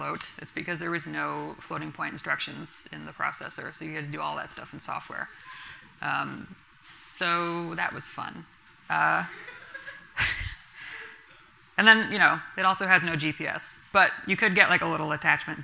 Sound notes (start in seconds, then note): 9.3 laughs; 9.4 laughter from the audience